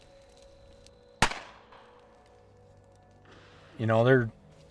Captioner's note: shot firing